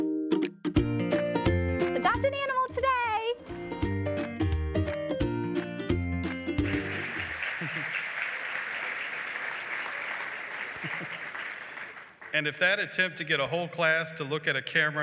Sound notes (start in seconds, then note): 3.5 upbeat music; 6.2 applause